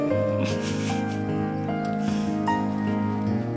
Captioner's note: chuckling